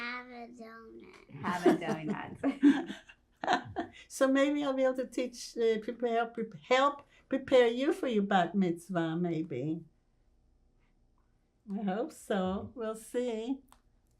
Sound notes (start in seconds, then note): 1.2 laughing